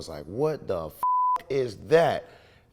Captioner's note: beep